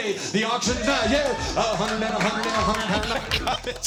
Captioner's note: cheers and applause; auctioneering; laughs